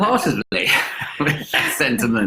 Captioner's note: laughing